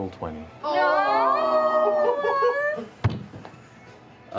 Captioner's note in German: Stöhnen